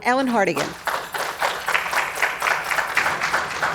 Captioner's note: applause